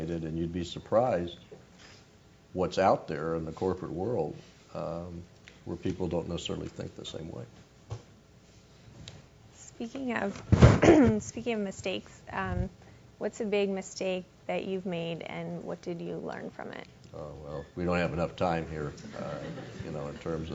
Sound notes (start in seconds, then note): 10.7 cough; 18.6 laugh